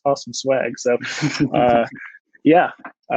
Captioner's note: chuckles